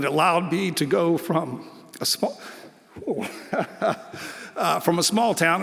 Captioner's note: laughs